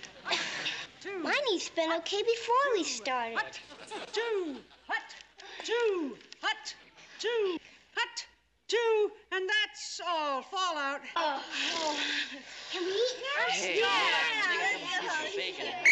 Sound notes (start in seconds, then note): 11.4 all sigh with relief; 14.7 all agreeing